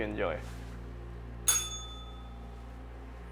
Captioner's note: bell rings